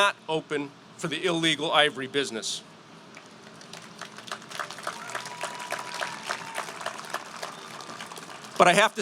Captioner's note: applause